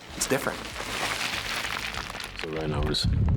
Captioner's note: rocks shifting